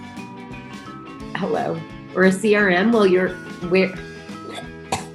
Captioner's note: coughs